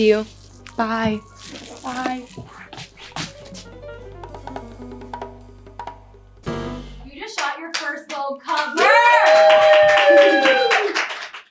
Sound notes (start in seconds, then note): 2.4 upbeat jazz music; 8.7 crew cheering